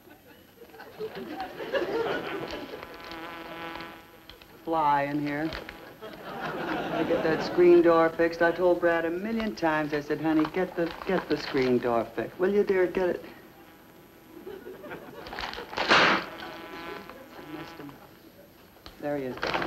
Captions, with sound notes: Fly in here. ... to get that screen door fixed; I told Brad a million times. I said, "Honey, get the, get the screen door fixed, will you dear, get it..." (voice fades out and audience begins to laugh) (book slams loudly against hard surface) Missed him... there he is!